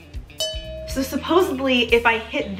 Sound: ding

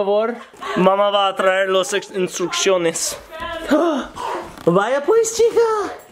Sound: speaking in foreign language

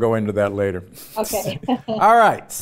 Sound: chuckles

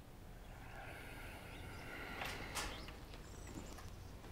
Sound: sighs

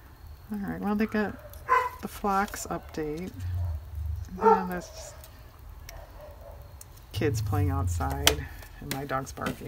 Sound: dog barks

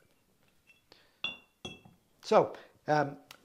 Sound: bottles clinking

